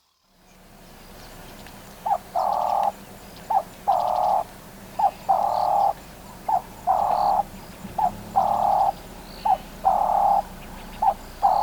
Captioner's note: dove call